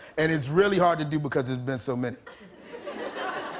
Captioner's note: light laughter